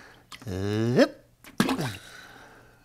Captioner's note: splash